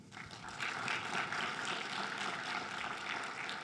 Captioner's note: crowd claps